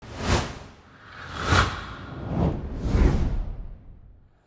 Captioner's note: graphics whooshing